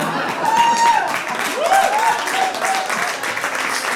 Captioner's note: audience laughs; audience cheers